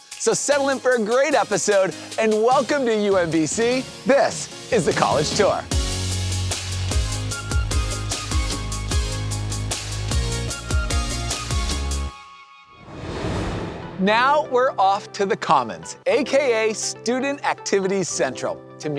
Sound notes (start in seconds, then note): 6.0 upbeat music; 12.8 screen swooshing